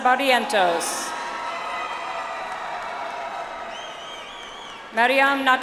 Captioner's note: audience applauds